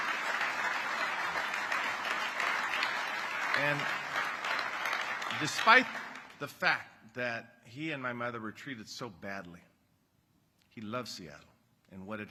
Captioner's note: applause